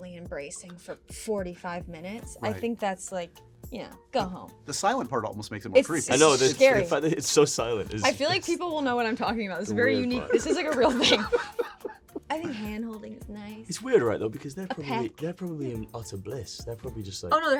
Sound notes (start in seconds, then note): 11.5 laughing